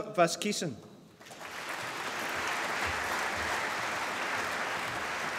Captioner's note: applause